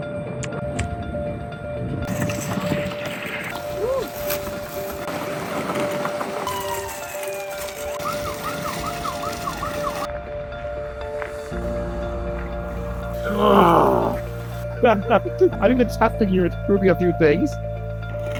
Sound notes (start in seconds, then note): 13.2 grunts; 14.6 laughter